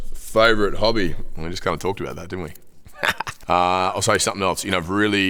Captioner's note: laughs